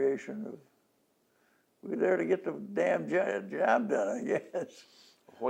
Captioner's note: laughs